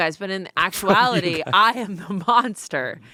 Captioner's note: laughs